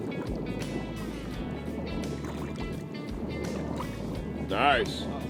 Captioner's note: light water splashing